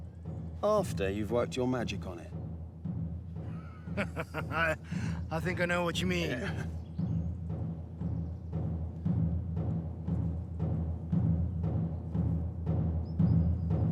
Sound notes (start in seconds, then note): 3.5 laughs; 7.9 dramatic music continues